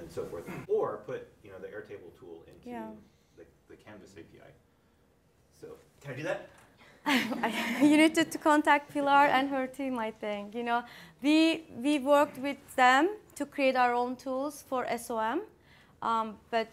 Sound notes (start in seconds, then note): 7.0 laughter